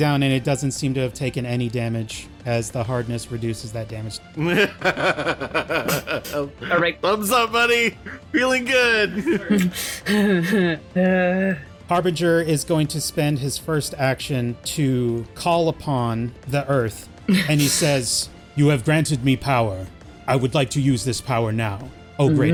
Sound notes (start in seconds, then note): 6.7 Smiter laughing